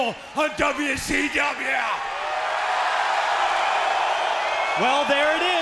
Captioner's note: crowd cheering